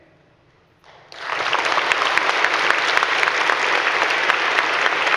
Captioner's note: audience clapping